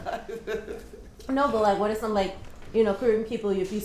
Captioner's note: laughter